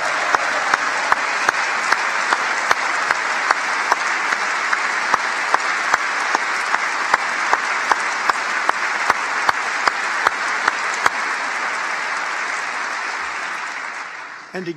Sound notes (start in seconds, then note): 2.7 applause; 4.2 cheers and applause; 13.6 applause